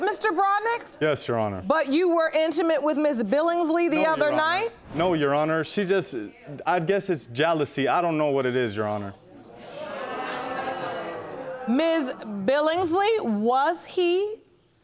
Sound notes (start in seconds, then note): 9.5 audience exclaiming